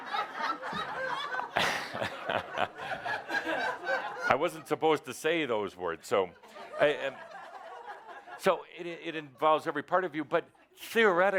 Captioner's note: laughter